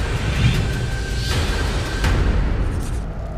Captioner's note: whooshing